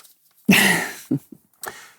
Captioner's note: laughs